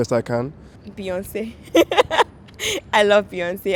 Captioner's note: laughs